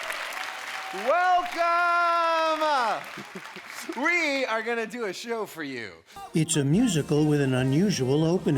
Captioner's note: applause